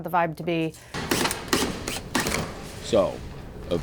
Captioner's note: drill whirring